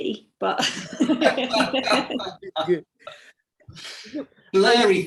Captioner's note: laugh